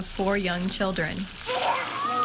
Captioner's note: yelling